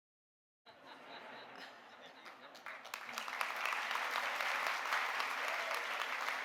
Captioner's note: audience laughing; audience applauding